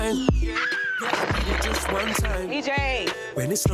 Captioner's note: squeals